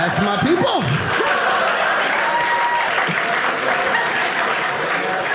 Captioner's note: audience laughing